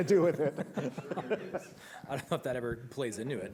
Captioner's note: laughter